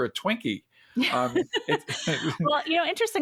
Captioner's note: laugh